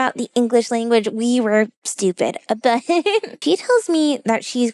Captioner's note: laughs